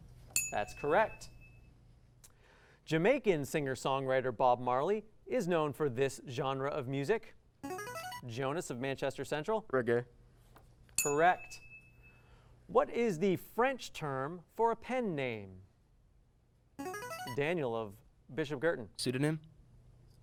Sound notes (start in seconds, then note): 7.7 buzzer; 16.8 buzzer